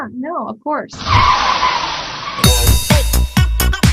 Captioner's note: tire screeching; upbeat music plays